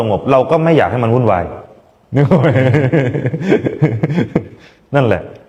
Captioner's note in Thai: เสียงหัวเราะ